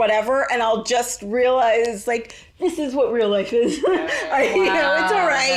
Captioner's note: laughs